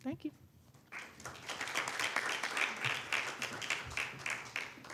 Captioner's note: audience applauding